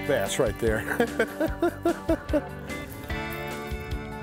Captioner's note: laughing